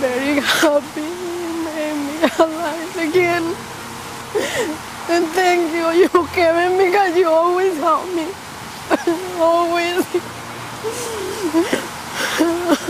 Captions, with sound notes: Very happy and in my life again. And thank you Kevin, because you always helped me, always. (sobbing)